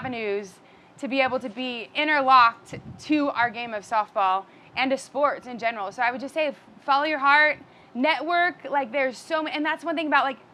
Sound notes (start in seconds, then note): none